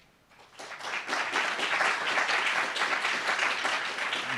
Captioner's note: applauds